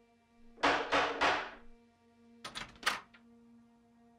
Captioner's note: door banging